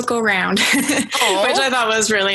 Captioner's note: laughs